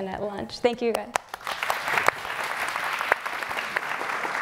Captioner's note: audience applauding